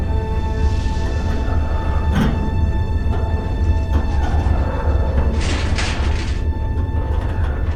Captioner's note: metal creaking and breaking